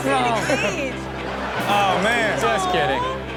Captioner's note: laughs; crowd laughs